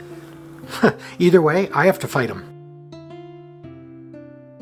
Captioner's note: chuckle